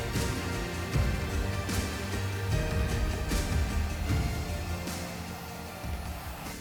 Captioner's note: blower whooshing; gentle upbeat music